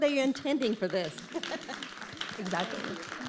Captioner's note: audience clapping